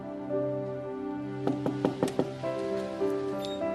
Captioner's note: knocking on door